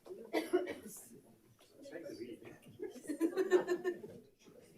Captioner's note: people chatter